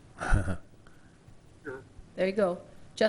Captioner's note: laugh